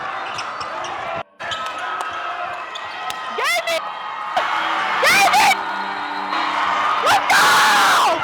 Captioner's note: cheering